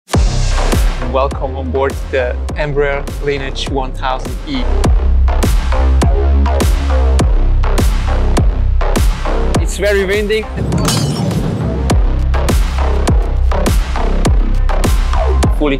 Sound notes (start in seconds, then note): 0.1 pulsating music; 5.2 pulsating music; 10.8 utensils clattering; 12.2 pulsating music